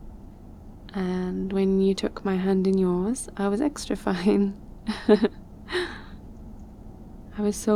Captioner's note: laughs